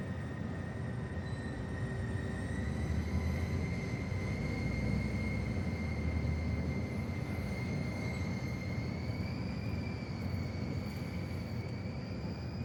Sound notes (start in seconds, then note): 6.8 construction noises, whistling